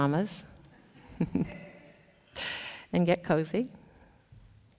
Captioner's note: chuckles